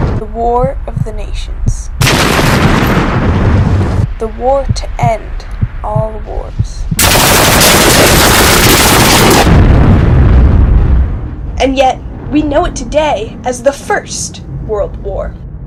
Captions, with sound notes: The war of the nations. [louder cannon fire, music intensifies] The war to end all wars. [very loud, overlapping cannon fire, gunshots, explosions] [big explosion, echoes and dies out] And yet, we know it today as the First World War.